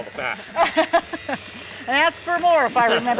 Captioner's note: laughs